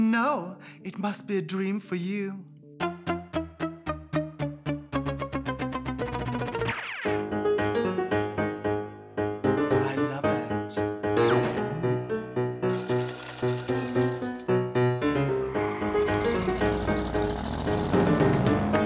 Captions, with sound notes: No! It must be a dream for you. (theme music) I love it. (screeching tires)